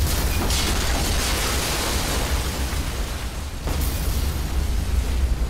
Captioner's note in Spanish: Explosión